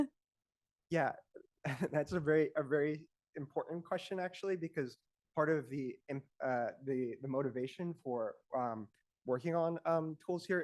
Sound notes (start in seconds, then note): 1.6 chuckles